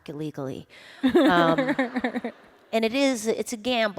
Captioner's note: laughter